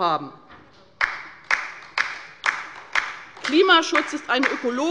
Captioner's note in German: Beifall bei der LINKEN